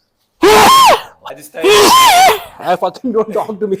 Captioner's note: snneze shout; sneezes